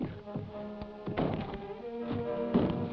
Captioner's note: door bangs open; tense music